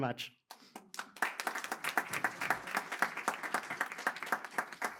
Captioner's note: applause